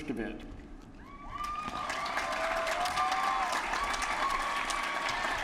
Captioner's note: applause